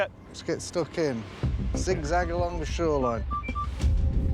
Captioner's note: detector beeping